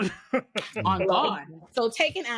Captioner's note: laughs